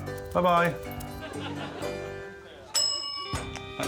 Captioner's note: dog's claws ticking on floor; upbeat music; audience laughing